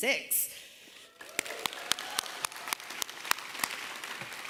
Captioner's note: applause